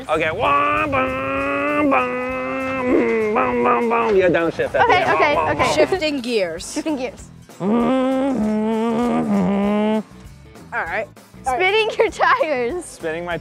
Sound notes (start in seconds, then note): 0.1 imitating gears shifting; 5.1 imitating gears down shifting; 7.7 imitating gears shifting